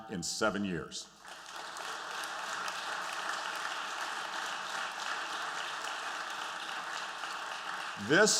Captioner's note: applause